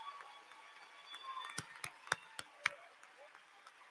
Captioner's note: applause